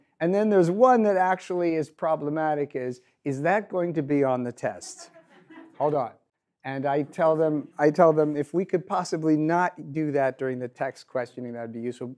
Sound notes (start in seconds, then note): 5.0 audience laughs